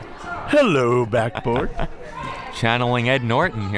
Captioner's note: laughing